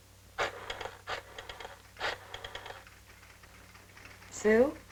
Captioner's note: rotary phone rattling